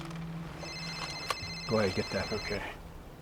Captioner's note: phone rings